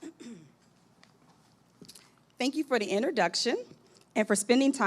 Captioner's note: clears throat